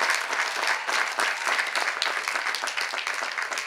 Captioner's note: cheers and applause